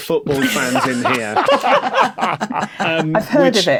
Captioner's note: group laughing